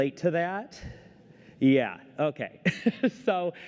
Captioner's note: laughter